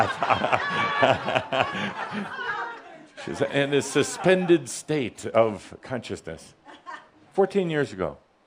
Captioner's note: laughter as she freezes mid step; lots of laughter